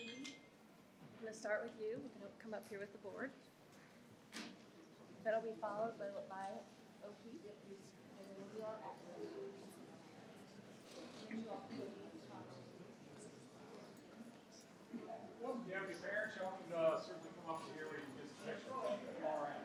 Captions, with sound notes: (participants chatter) - I'm gonna start with you. We can come up here with the board. That'll be followed by OP. (participants chatter)